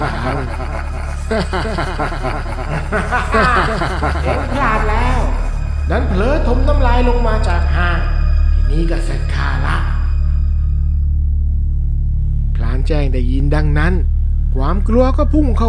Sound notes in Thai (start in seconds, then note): 0.0 เสียงหัวเราะ